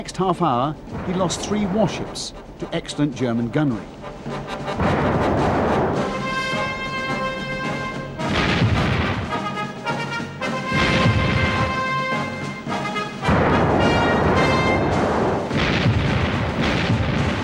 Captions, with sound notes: But in the next half hour, he lost three warships to excellent German gunnery. (cannons firing)